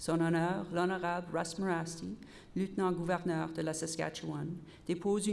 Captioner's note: repeated in French